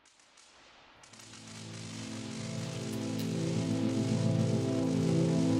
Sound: lightening bolts sparking; intense music

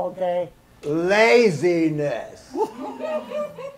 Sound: woman is laughing

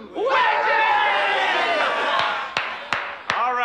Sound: screaming

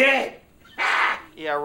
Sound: laughs

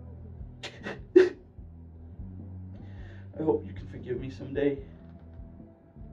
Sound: sobs; muffled rock music

